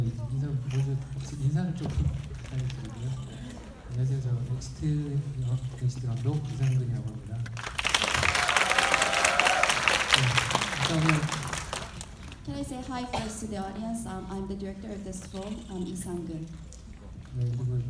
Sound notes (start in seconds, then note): 0.2 speaking in foreign language; 7.8 audience cheering; 17.6 speaking in foreign language